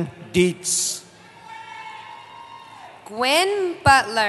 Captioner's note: cheering